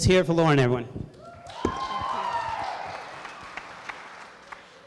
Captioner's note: applause